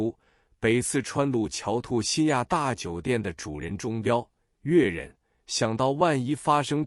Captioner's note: Cantonese